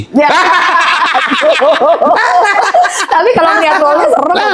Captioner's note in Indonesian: tertawa